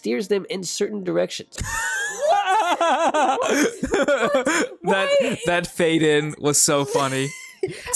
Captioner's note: both crack up uncontrollably